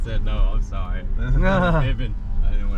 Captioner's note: laughs